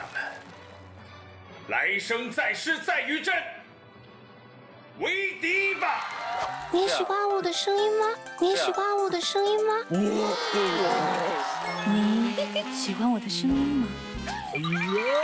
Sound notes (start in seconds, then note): 9.1 Loli voice; 13.6 big sister voice